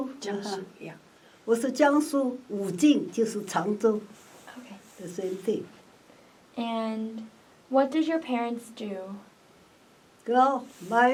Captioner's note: speaks in Mandarin